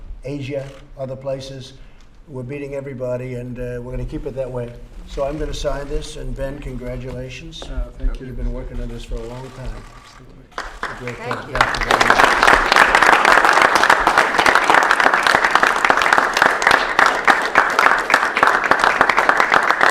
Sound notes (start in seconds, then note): 12.8 applause